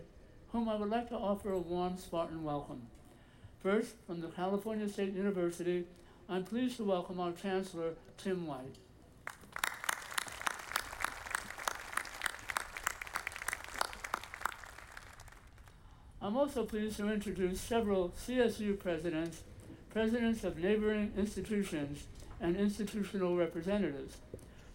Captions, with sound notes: whom I would like to offer a warm Spartan welcome. First from the California State University, I'm pleased to welcome our Chancellor, Tim White. (audience applauding) I'm also pleased to introduce several CSU presidents, presidents of neighboring institutions and institutional representatives.